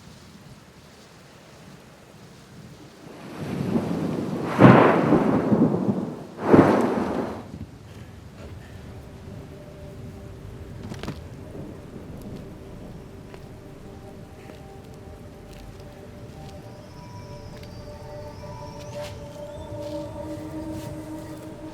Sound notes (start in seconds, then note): 3.3 thunder booms; 4.5 rain patters; 9.4 looming music; 18.5 suspenseful music